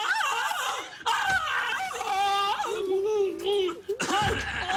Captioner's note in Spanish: Gritos